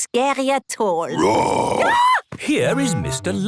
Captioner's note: roar, scream